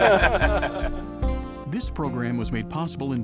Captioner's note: laughter